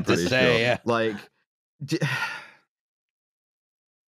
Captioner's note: sighs